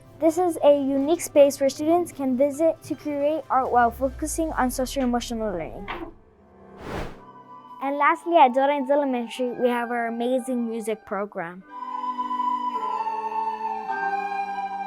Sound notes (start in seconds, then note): 6.7 air whooshing; 12.0 whimsical music